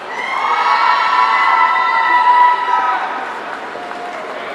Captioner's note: audience cheering